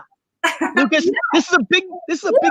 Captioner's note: laughing